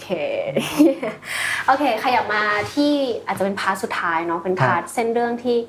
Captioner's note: laughs